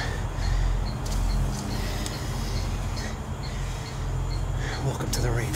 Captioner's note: breathing heavily